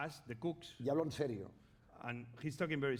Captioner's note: speaking spanish